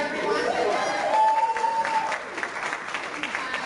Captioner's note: cheering